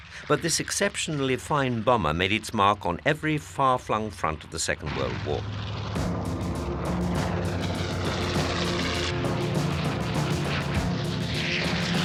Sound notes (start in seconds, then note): 5.1 plane roaring; 5.9 dramatic music